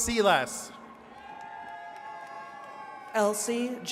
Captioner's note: attendees cheering